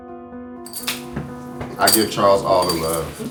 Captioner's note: hands slap